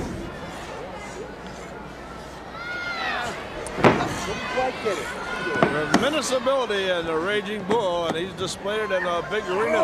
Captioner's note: crowd cheering